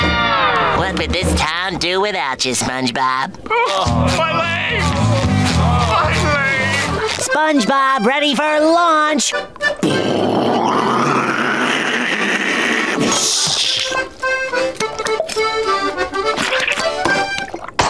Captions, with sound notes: What would this town do without ya, SpongeBob? [moaning] My leg! [moaning] My leg! SpongeBob ready for launch. [making rocket noises]